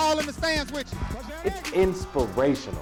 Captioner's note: crowd cheering